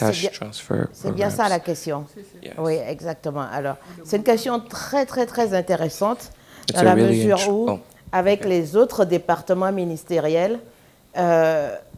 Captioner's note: speaking french